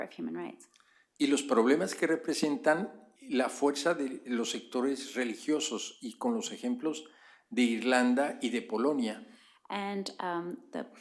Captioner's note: speaking spanish